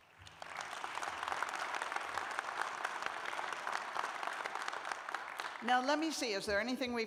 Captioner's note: applause